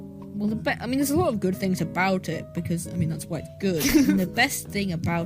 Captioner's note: laughs